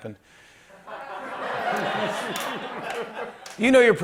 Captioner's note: laughter